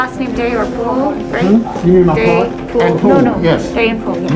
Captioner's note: nurse mumbling